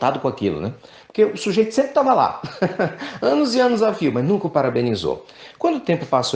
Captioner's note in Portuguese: risadas